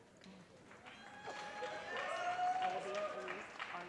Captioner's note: audience cheers and applause